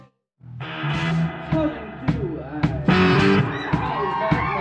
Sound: audience cheers

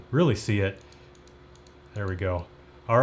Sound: mouse clicking

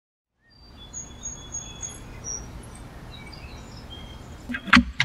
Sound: birds chirping

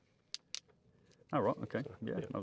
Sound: plastic clicks

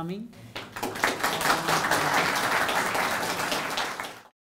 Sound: audience applauding

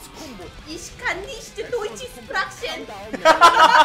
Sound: mother speaking German

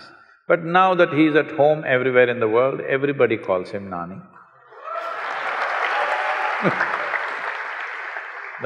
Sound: cheers/Applause

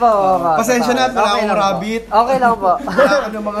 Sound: chuckling

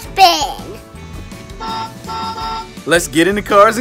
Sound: beeps

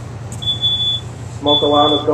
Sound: smoke alarm beeps

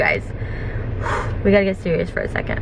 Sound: sighs

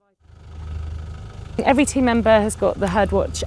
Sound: vehicle whirring

